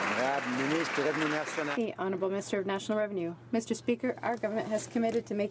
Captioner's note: some Applause